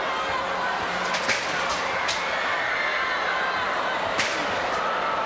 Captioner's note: crowd shouts; scaffold rattling